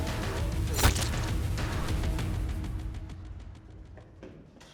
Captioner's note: sword whooshing; sword thudding